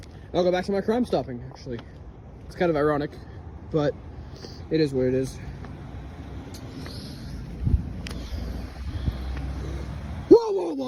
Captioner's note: sighs heavily